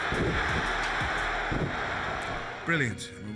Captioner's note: crowd cheering